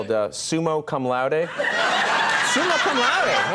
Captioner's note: audience laughing